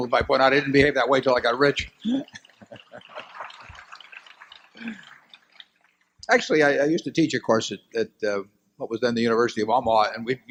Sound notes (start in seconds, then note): 2.2 laughter and applause